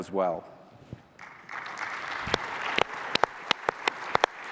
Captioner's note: applause